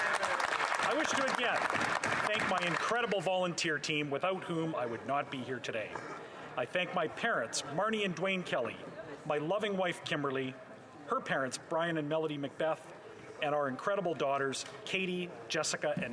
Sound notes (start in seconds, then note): 2.5 some Applause